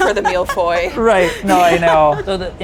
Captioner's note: laughs